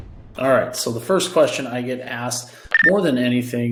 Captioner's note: air whoosh